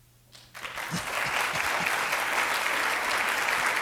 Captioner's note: applause